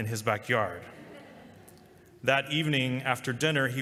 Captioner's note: laughter